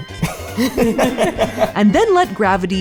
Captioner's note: both laugh